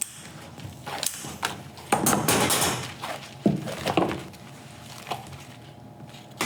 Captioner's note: scissor snip